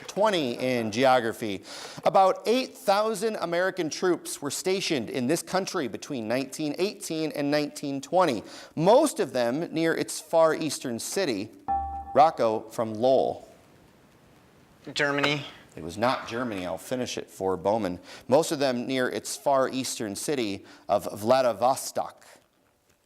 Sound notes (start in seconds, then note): 11.7 dinging